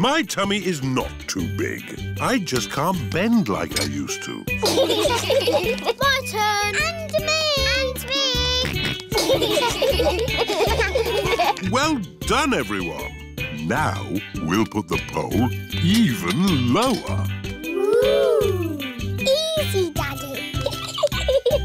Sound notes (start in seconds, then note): 4.6 laughter; 8.6 george snorts; 9.1 laughter; 20.5 giggles